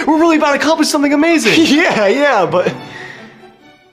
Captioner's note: laughs